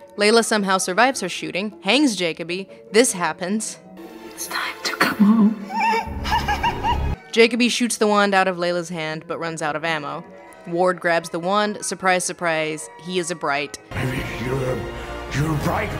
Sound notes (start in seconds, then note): 5.6 wimpering